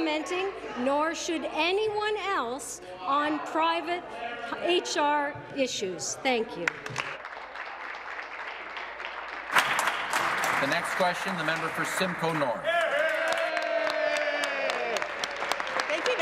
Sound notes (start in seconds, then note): 11.3 applause; 15.8 applause